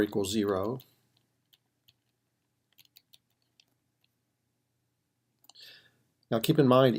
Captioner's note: typing